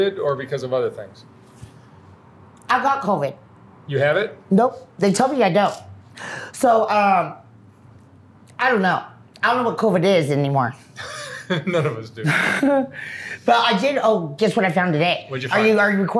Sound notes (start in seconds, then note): 12.2 laughs